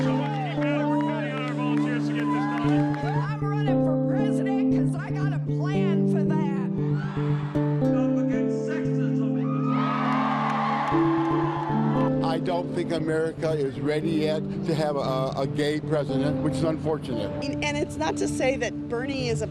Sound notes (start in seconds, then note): 3.9 cheering